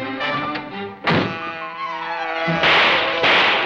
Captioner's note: car buzzing; gun firing